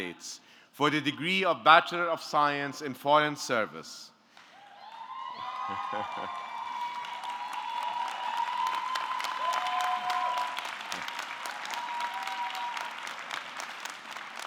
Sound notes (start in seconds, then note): 4.6 audience cheering; 4.8 audience clapping